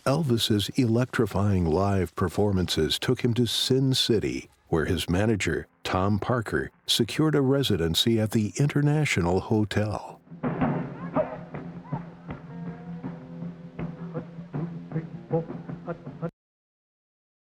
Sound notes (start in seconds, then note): 10.1 drum beating; 10.6 footsteps tapping